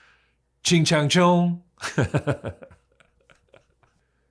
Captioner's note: laughs